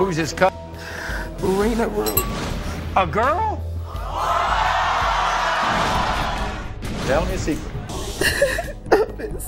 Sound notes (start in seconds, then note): 4.1 audience screaming